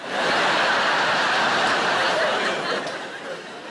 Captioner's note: audience laughs